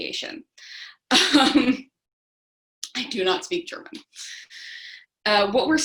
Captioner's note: chuckles